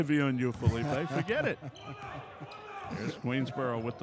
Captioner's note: laughing